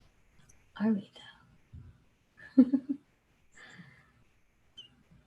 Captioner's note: laughs